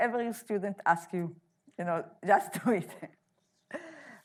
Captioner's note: laughing